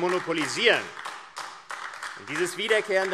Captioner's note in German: Beifall AfD